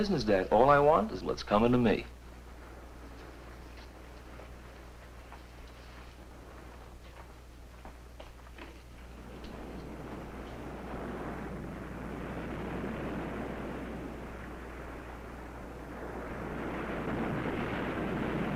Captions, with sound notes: All I want is what's coming to me. (waves crashing)